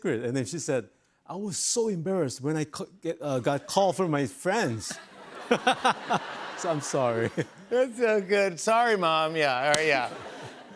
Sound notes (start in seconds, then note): 5.6 laughs